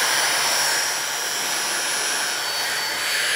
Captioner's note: sound of the hair dryer